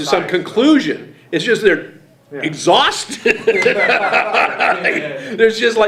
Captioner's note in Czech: smích